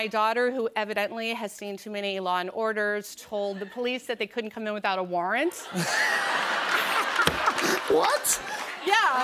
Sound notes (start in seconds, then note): 5.6 laughter and applause